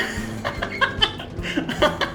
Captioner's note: laughs